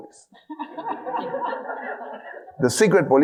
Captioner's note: audience laughing